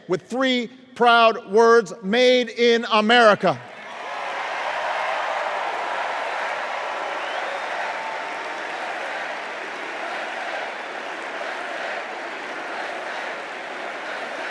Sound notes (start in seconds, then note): 3.6 cheers and applause